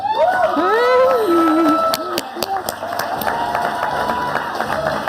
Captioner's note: audience applauding